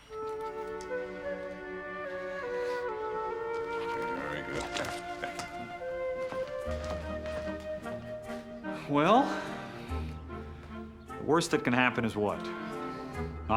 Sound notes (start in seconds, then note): 6.2 sighs